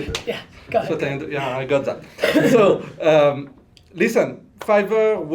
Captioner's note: laughter